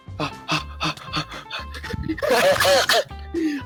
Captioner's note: panting